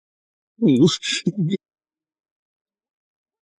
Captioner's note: moaning